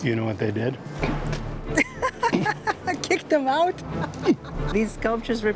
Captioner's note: laughs